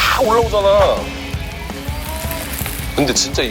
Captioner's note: frying